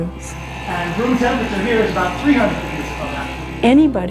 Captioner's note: classroom talking